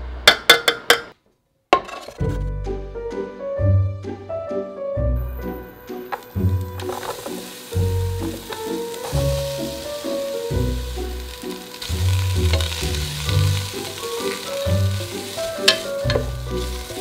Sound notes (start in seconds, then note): 1.7 fork hitting metal; 7.4 onions sizzling